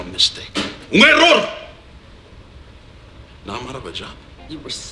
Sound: speaks spanish

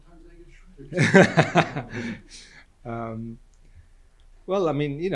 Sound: group laughs

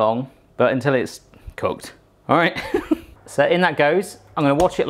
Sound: chuckling

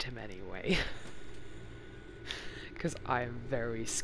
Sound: laughs

